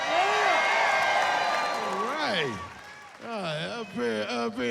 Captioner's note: cheering